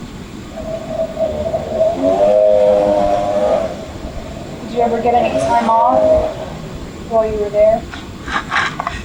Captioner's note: traffic noise; engine noise